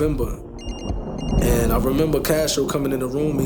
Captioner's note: cell phone ringing